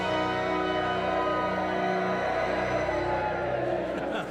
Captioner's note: cheering; laughing